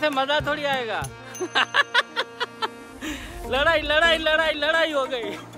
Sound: laugh

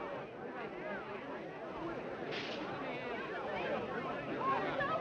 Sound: people chattering

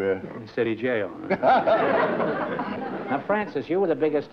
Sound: laughter

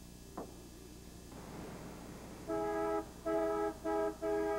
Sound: honking

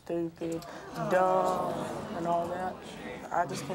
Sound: audience clamors

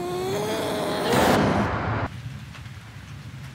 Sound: snarls

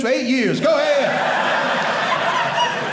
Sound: audience laughing

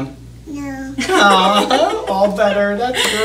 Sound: laughing

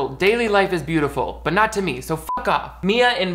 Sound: beep

